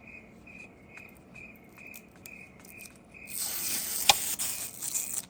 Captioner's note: crickets